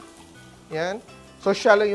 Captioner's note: sizzles